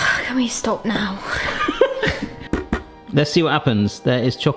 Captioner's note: sighs; laughs